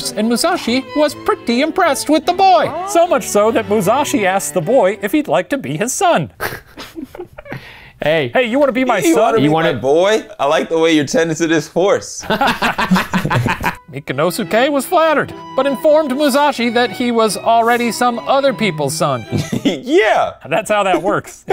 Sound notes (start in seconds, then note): 6.4 chuckles; 12.2 laughing